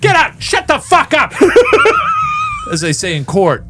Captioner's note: laughing